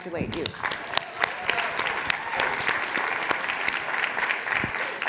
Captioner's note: audience applauds and cheers